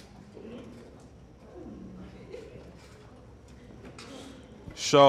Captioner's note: audience chuckles